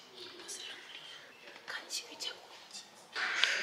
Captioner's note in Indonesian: Berbisik